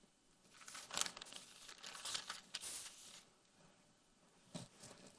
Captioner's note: paper crinkling